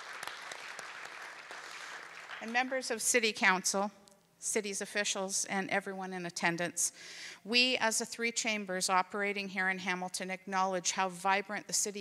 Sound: cheering

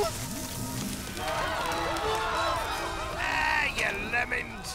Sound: crowd screaming

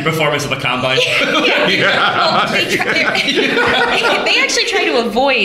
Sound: laughter

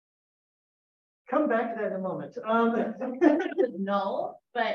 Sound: laughter

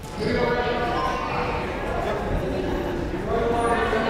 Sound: crowd murmuring

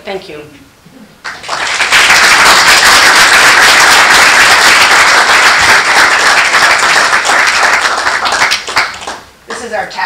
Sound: applause

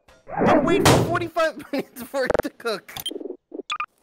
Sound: woosh

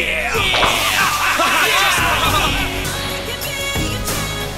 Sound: all laughing and cheering

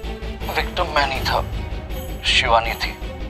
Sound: none

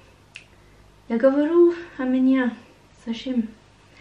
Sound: Russian

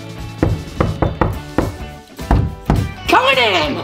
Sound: knocking at door

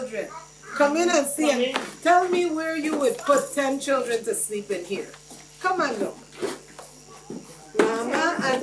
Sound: foot steps

